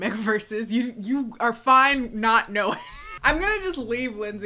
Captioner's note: laughs